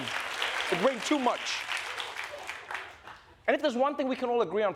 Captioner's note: applause